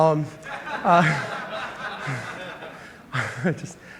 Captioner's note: laughter